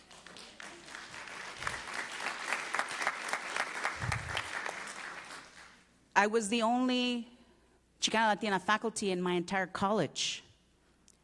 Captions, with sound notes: call the degree in common sense. [APPLAUSE]